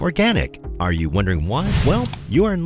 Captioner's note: air whooshing